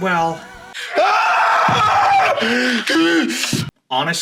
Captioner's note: screams